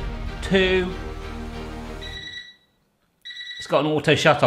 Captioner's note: beeping